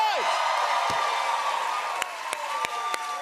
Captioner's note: cheers and applause